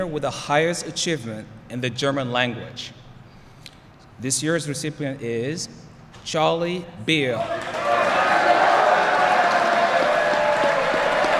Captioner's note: applause